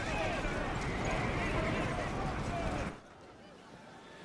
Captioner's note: yelling